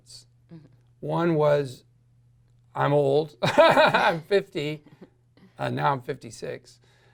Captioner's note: laughs loudly